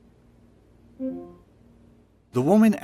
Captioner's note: soft metallic beeping